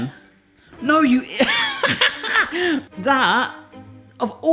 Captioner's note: laughs